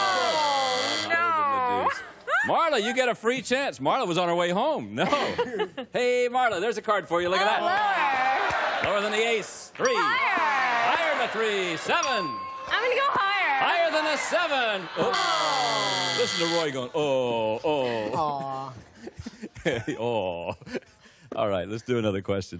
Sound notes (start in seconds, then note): 4.9 laughter; 16.3 buzz; 20.4 chuckles